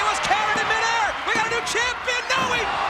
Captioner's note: hands thudding